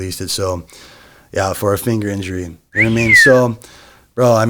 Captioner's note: whistles